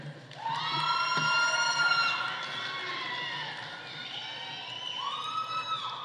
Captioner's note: audience applauding; audience cheering